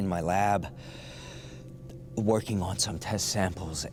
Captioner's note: inhales deeply